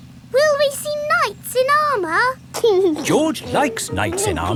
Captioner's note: giggling